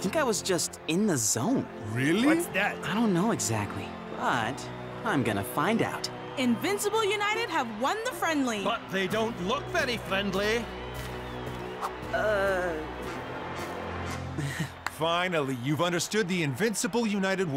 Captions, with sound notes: - I think I was just in the zone. - Really? - What's that? - I don't know exactly. But I'm gonna find out. - Invincible United have won the friendly. - But they don't look very friendly. - Uh... (chuckling) - Finally, you've understood the Invincible United way.